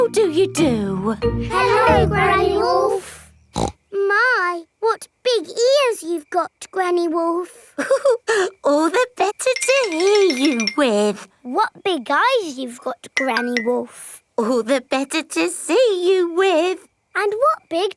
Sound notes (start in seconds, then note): 3.5 snorts; 7.8 chuckles